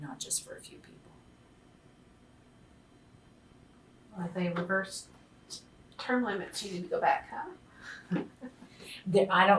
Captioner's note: laughs